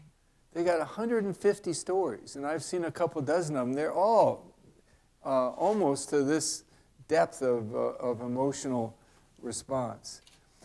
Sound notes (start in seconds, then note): none